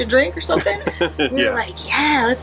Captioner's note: laughs